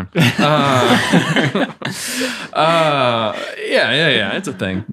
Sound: laughs happily

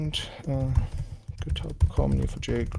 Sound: keyboard clacking

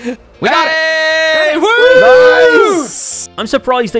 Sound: group cheers

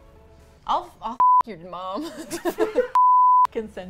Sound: all laugh

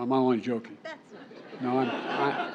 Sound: laughter

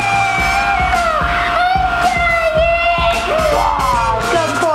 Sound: screeching

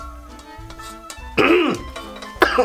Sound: coughs; grunts

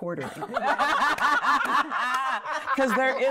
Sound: women laughing

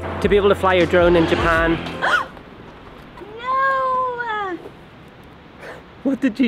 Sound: gasps

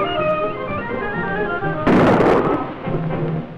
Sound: gunshot

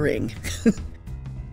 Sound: laughs

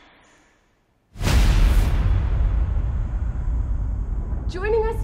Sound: atmosphere rumbling

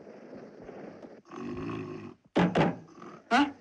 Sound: snores

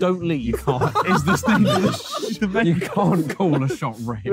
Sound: all laughing; indistinct chattering

